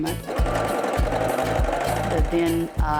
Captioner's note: sewing machine whirs